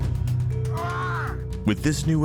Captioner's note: man screaming